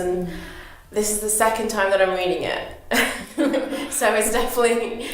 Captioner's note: laughs